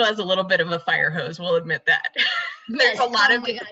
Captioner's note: laughs